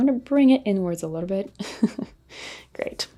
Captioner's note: laughs